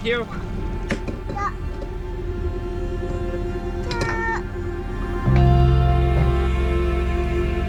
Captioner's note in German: murmelt